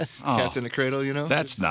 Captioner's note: laughing